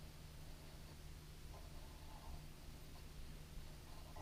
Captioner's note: pen scratching